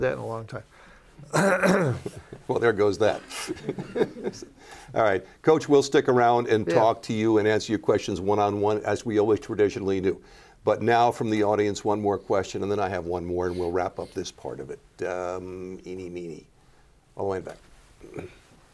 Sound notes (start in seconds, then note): 3.2 laughter